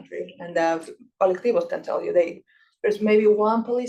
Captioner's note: speaking Spanish